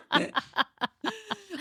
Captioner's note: laughing